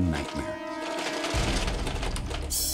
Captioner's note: rattling